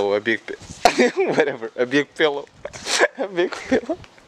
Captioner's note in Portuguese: ahaha